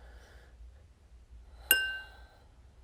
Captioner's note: bell rings